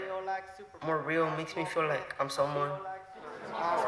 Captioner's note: everyone chanting